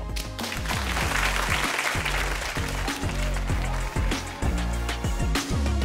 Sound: upbeat music; audience applauding

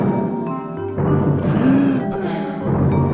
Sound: gasps

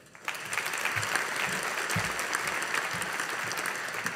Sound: audience applauding

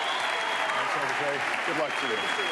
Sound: applause

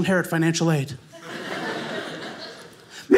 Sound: audience laughing

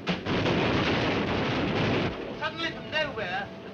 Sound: artillery firing

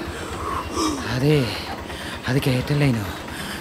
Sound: panting

